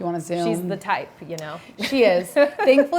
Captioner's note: chuckles